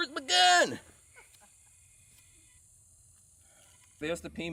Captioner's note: distant laughing